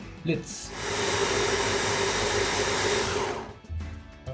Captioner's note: blender whirring